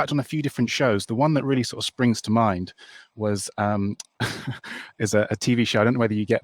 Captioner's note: chuckles